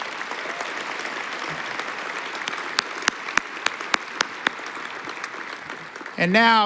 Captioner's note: applause